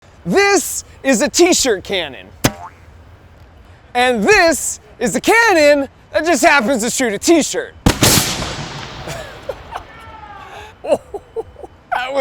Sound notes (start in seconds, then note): 2.4 T-shirt boinging; 7.8 cannon firing; 9.7 person cheering; 10.8 laughing